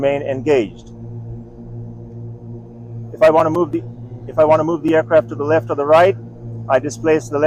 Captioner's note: motors hum